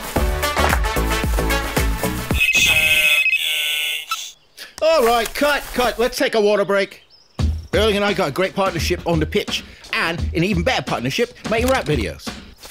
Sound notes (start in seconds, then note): 2.3 phone rings